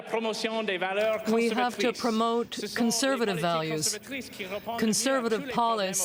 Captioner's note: applause